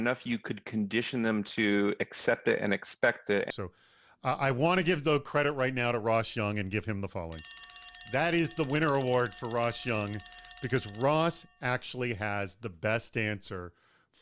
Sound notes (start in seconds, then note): 7.3 bell rings